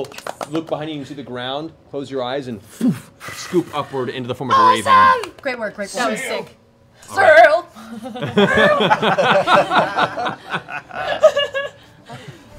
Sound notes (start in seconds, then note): 7.8 laughing